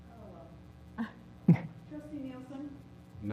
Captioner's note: laugh